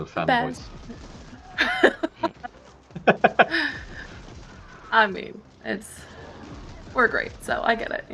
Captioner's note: laughs